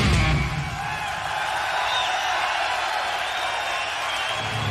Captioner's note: crowd cheering